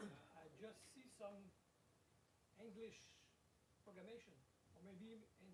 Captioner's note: voiceover